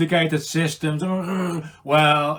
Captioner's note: murmuring